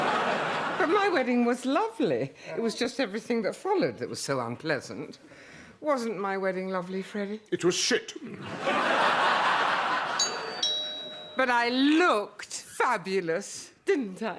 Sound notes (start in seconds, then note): 10.1 doorbell